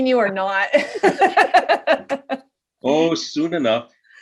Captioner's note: both laugh